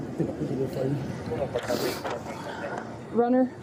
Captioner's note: radio chatter